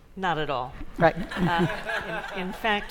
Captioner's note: laughter